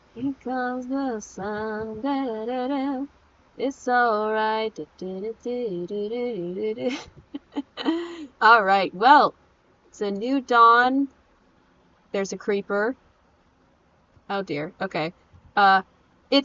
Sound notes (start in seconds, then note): 0.2 humming; 6.8 laughing